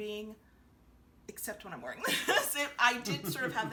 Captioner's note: giggling